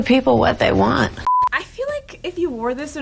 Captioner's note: high pitched beep